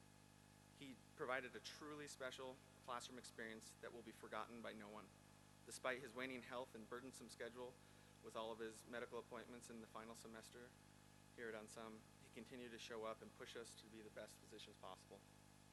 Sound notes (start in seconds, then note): none